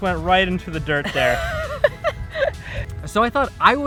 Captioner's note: laughs